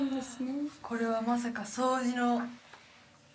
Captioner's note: speaking in foreign language